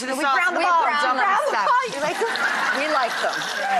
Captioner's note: overlapping chatter